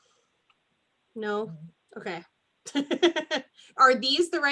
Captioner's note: laughs